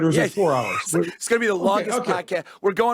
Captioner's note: laughs